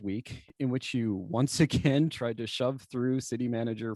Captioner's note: laughter